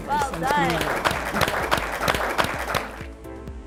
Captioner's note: applause